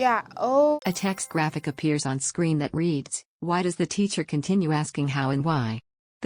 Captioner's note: chime